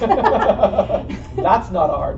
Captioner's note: laughter